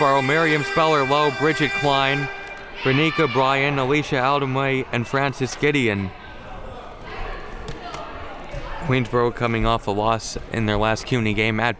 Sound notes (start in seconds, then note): 6.9 crowd murmuring